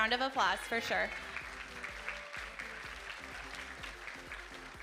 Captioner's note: audience applauding